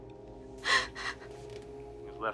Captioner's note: Rose whimpering